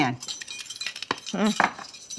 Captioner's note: spoons jingling